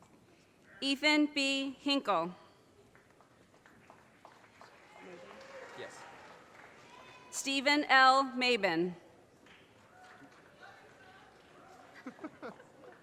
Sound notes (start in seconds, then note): 3.6 audience applause; 9.9 audience cheers and applause